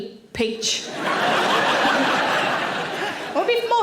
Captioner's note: audience laughing